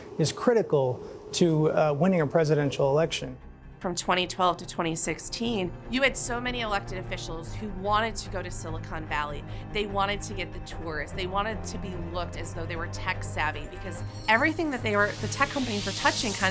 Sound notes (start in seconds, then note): none